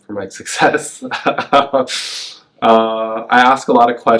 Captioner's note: laughs